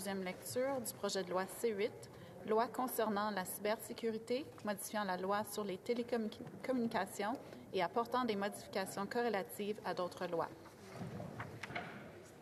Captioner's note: speaking French